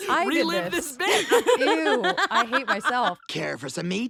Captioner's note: laughing